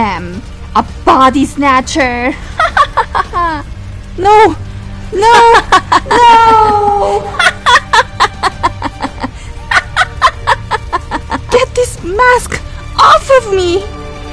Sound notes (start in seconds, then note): 2.5 laugh; 7.9 laugh; 10.2 laugh